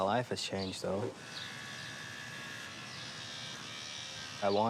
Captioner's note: razor buzzing